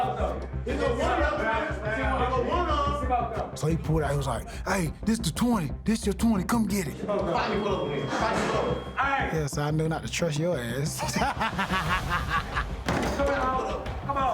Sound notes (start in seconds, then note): 10.9 laughing